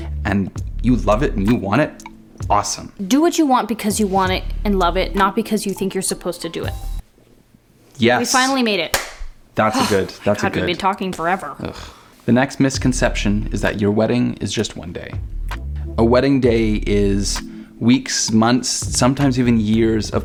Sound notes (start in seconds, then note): 8.9 hands high-five clapping